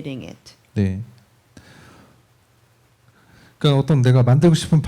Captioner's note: speaking korean